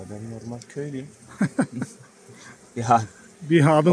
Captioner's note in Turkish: Gülme sesi